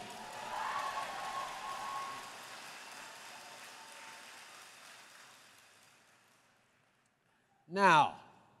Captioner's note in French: Acclamations et applaudissements